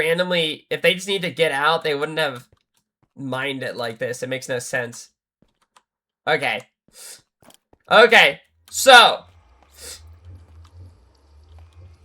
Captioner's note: snorts